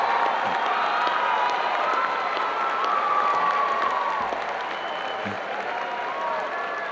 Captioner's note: audience applauding and cheering